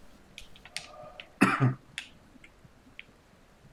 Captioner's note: coughs